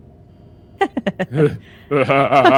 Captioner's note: giggle